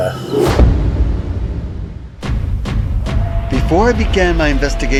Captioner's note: threatening music; swooshing